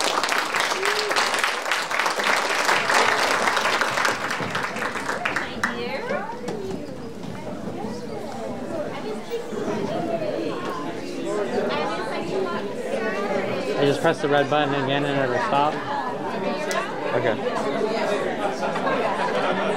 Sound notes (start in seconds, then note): 0.0 audience applauding; 7.5 everyone chattering